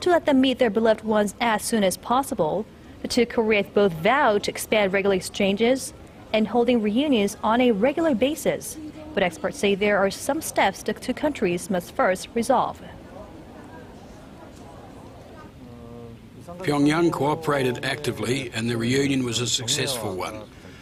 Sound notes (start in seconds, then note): 13.9 Korean